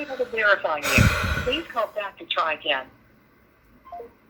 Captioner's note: audible intimidation